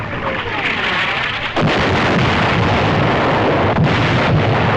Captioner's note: explosions